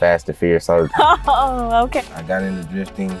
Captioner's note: laughs